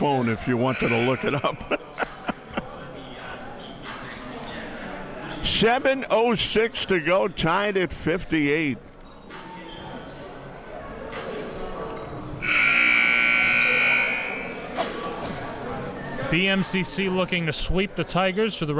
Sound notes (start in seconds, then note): 0.8 laughs; 12.4 buzzer sounds